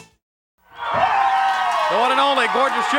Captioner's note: audience cheering